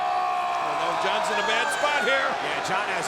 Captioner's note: crowd cheering; Rusev yelling